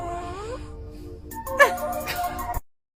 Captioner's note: both laugh